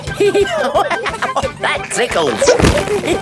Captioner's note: laughing